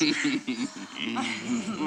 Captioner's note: chuckles